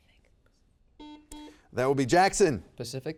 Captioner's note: buzzer beeps